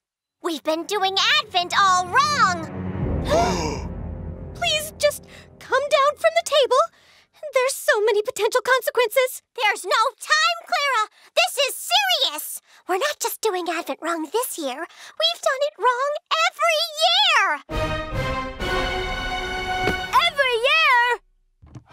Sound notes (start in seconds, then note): 3.2 gasp